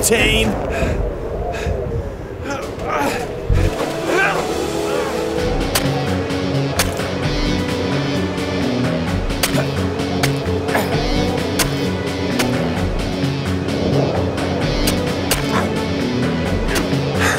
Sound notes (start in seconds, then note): 2.4 grunting; 3.5 dramatic music